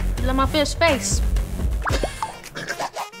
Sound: laughing

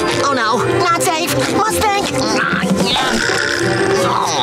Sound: grunting

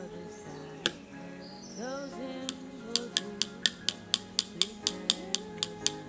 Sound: paintbrush tapping against cup

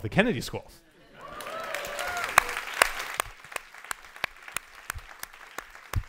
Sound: audience cheers and applauds

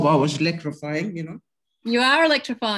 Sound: laughs

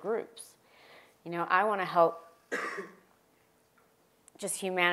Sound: cough

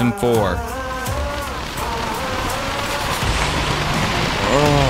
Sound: rain pouring

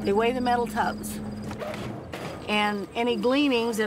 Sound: machinery running

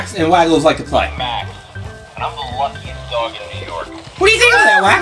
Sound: toy talking

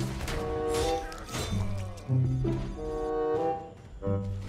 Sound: predator slashing

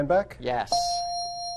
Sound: ding

